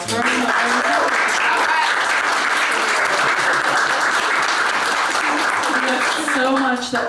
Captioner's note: applause